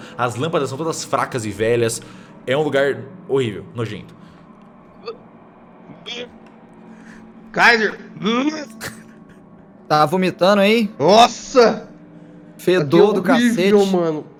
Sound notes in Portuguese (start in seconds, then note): 5.4 blurgh, blurgh; 8.5 Blurgh